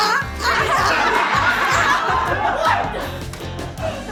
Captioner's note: laughter